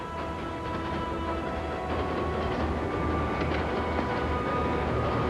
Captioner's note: train clacking